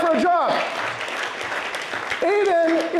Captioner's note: applause